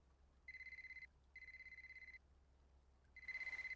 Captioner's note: mobile ringing